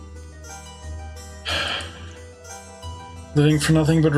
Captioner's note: sighs